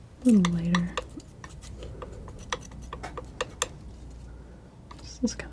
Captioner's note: tapping